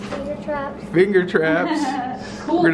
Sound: laughing

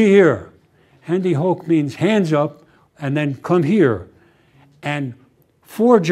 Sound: german

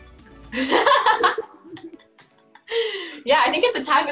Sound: Kaylee laughing

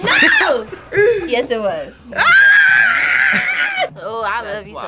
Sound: screams

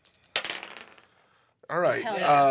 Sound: die clatters

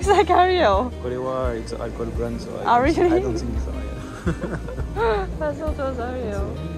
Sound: laughs

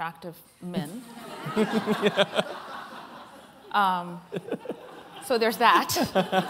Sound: laughter

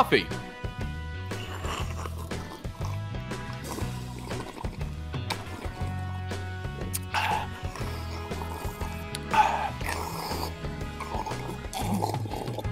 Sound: slurps; wonderful slurping sounds

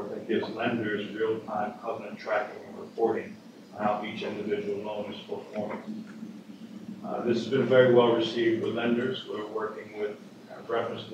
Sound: off mic

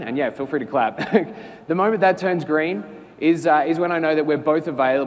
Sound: laugh

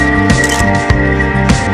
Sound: photo click

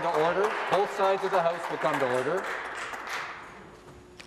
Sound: applause

